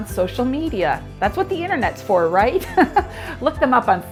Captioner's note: laughs